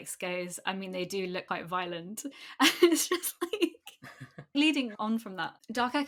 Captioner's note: laughs